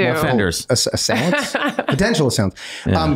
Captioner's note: laughing